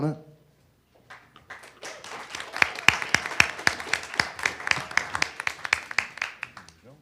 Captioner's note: audience applause